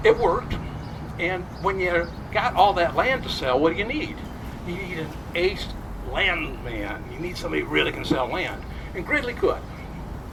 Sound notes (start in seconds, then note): none